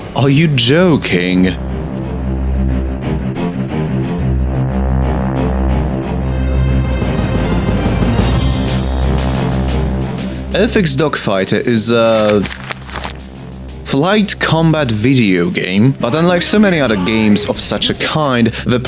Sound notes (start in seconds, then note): 11.9 rustling of papers